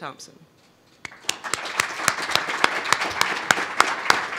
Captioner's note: applause